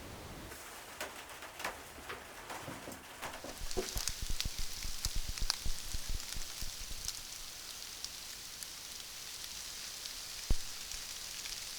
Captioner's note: rain falling